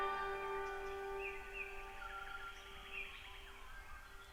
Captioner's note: nature noises